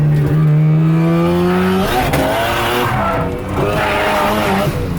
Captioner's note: engine revs; tires squealing